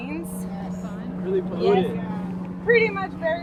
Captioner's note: crowd